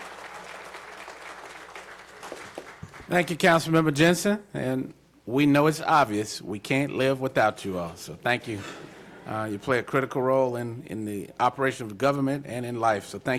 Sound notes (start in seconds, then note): 4.0 applause